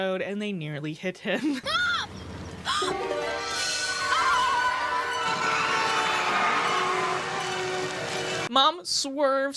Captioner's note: tires screeching